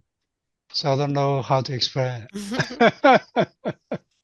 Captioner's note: laughs